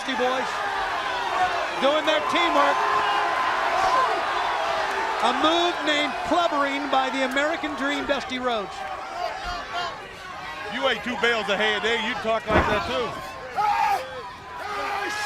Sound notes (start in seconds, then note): 4.8 crowd cheering; 11.5 crowd chatter